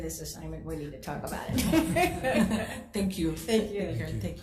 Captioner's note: laughs